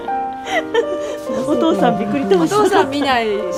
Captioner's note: laughter